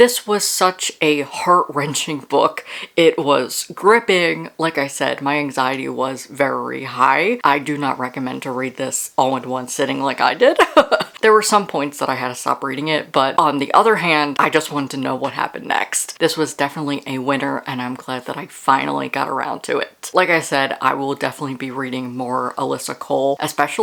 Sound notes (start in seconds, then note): 10.4 laughs